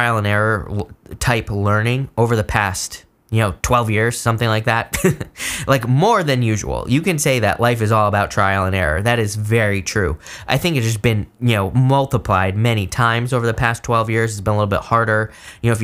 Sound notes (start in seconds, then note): 4.9 chuckles